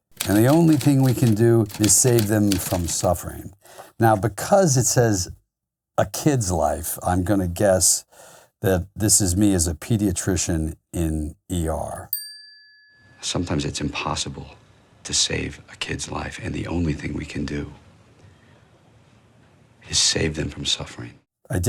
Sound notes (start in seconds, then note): 12.1 bell chiming